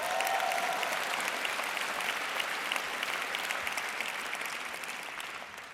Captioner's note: audience cheering and clapping